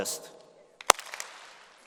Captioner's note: applause